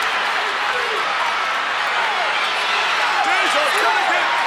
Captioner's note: crowd chattering